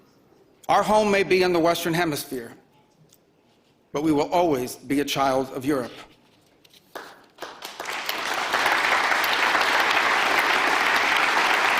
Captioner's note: applause